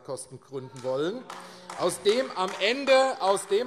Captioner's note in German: Beifall AfD - Zurufe: Oh!